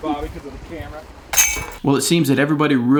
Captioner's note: chains clank